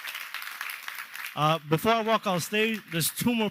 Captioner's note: cheers and applause